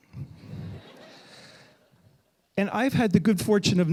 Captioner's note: audience laughing